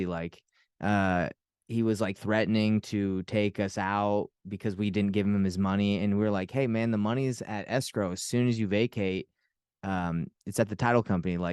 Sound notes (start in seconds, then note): none